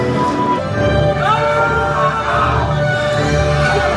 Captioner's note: person screams; gentle classical music continues